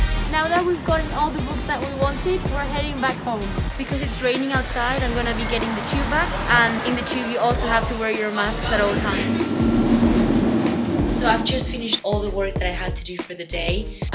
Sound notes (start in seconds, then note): 0.0 upbeat music; 9.5 tube engine roaring